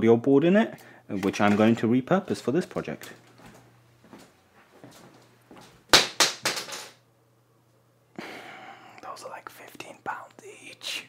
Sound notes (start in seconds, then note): 5.9 audio board landing on floor noises; 8.1 sigh